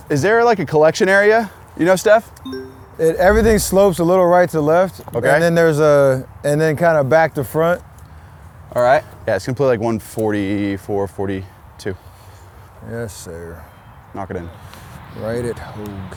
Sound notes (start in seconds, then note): none